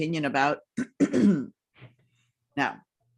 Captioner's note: clears throat